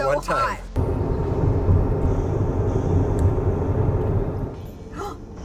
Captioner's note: car engine rumbles